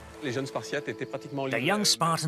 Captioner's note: speaking in foreign language